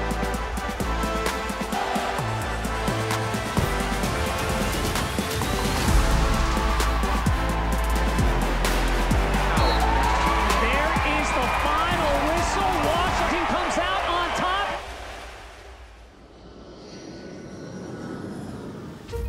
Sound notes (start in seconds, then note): 0.2 upbeat music; 6.5 crowd cheering; 6.5 upbeat music; 9.5 whistle blows; 16.9 airplane engine roars